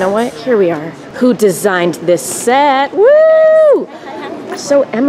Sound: cheering

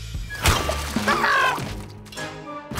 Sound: screaming

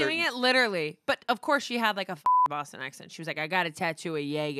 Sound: beep

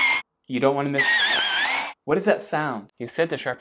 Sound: sound of pencil sharpening

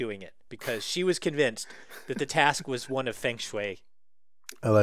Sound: laugh

